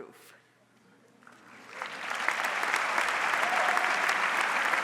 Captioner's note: audience applauds